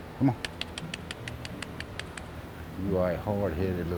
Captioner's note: clicks teeth